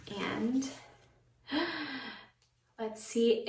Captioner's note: gasp